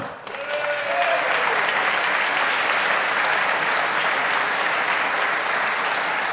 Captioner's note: applause